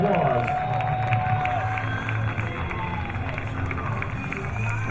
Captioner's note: crowd applauding